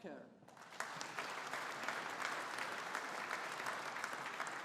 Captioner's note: audience applauding